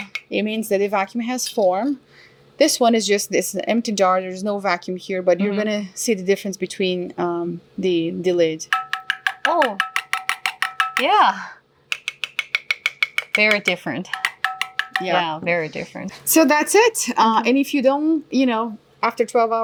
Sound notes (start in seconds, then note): 8.7 hollow tapping sounds; 11.9 tight tapping sounds; 11.9 hollow tapping sounds